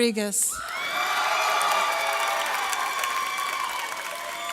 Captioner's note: audience cheers